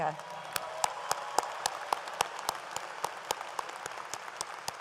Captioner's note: audience applauds